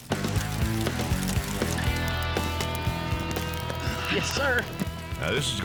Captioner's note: fire crackling